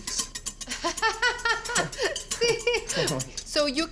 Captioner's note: laughs